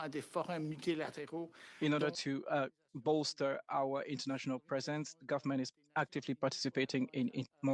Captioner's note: speaking French